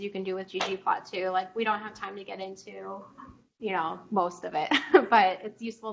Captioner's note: chuckles